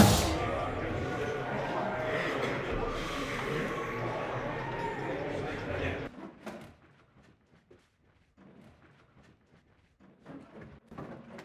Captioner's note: drum beat; light locker room noise